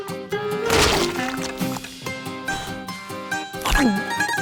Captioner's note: blowing; gulp